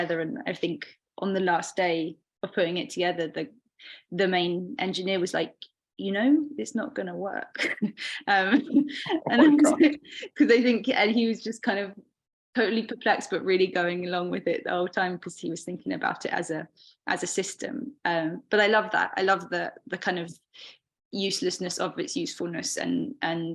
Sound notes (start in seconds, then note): 8.5 chuckling; 8.6 both chuckling